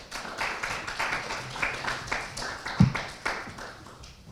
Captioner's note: crowd claps